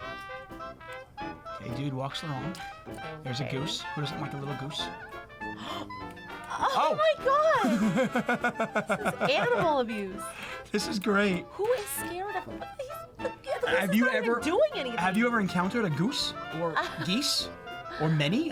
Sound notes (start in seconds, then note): 0.3 lively jazz music; 5.5 gasps; 7.6 laughing